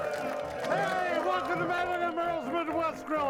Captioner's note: audience applauding and cheering